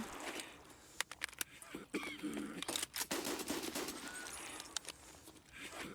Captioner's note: gunfire